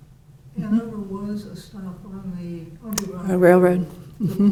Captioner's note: faintly speaking